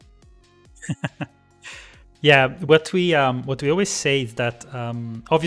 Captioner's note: laughs